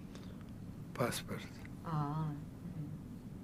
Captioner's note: mumbling